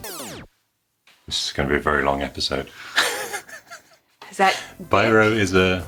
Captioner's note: chuckles